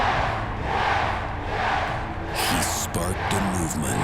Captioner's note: fans chanting